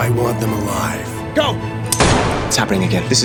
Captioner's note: gun bangs